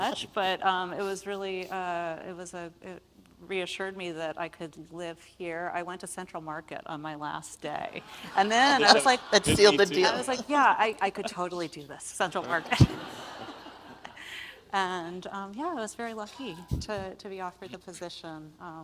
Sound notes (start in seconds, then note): 8.0 audience laughs; 12.3 audience laughs